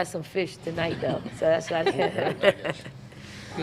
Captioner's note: laughing